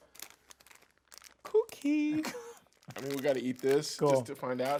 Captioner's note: laughing